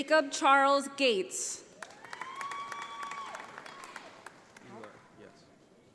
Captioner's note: audience applauding